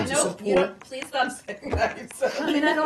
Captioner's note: laughter